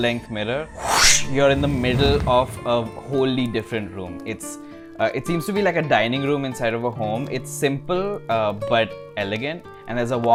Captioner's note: woosh